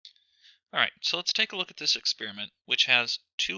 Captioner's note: voiceover